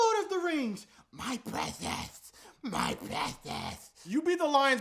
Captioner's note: impersonating Smeagol with a lisp